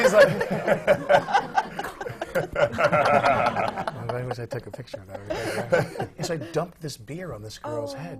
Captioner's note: laughter; laughs and points to a man in the audience